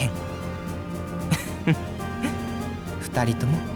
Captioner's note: chuckle